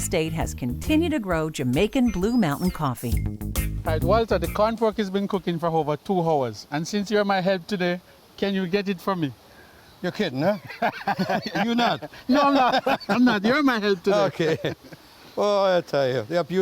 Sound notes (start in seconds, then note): 10.4 laughter